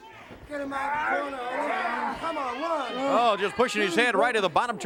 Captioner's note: crowd chatter